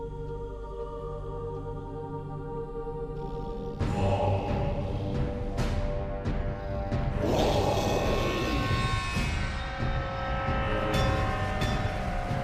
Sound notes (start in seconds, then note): 4.1 ominous music; 4.1 people chanting